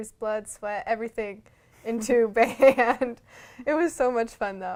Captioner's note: laughter